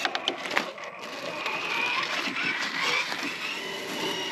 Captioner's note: vroom! Vroom!